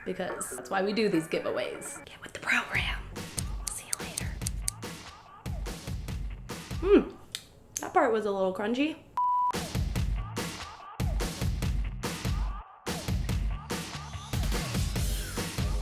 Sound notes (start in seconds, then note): 2.0 whispering; 3.3 snip